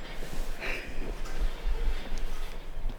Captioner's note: sighing